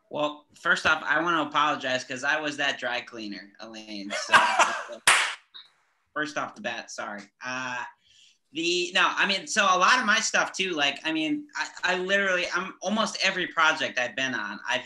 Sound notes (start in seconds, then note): 4.1 laughs